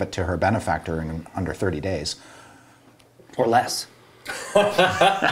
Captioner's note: laughter